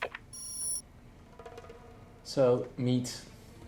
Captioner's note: beep